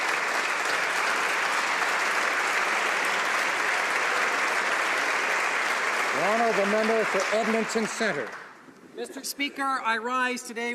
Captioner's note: applause